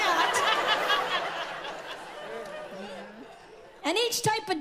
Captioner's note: audience laughs